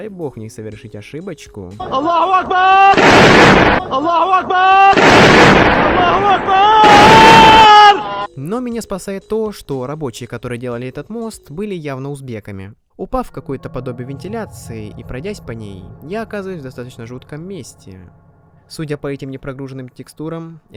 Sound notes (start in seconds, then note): 1.8 funny sounds etc